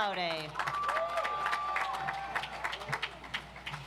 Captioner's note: audience applauds